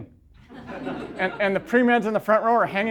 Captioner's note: laughter